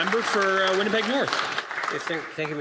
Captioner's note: applause